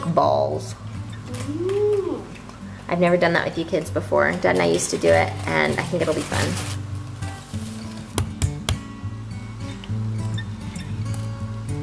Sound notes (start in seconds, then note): 7.9 cracking